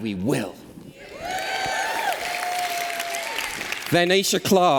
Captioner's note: applause